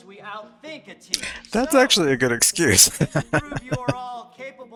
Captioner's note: laughing